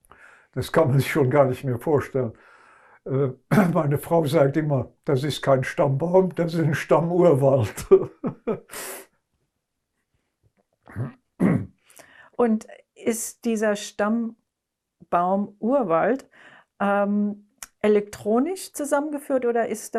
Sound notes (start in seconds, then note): 7.8 laughing; 11.4 clears throat